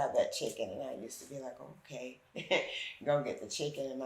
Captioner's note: chuckles